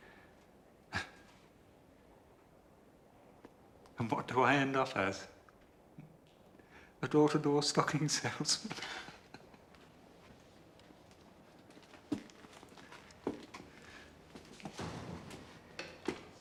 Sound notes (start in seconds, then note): 8.6 terkekeh